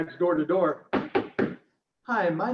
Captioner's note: knocking